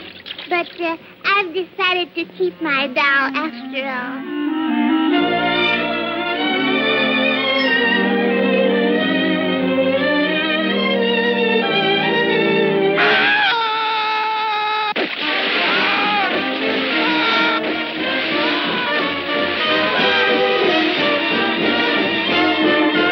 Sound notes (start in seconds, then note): 12.9 screaming